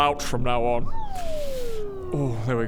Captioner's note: deflating whistle